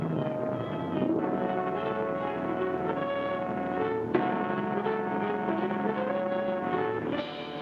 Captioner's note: boat hums; dramatic music